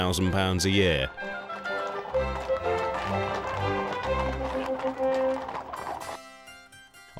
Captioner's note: upbeat instrumental music; horses clip-clopping